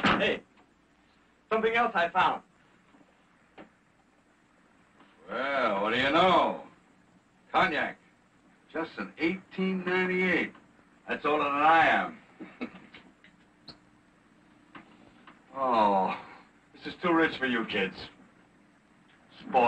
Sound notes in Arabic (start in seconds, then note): 12.4 ضحكات خافتة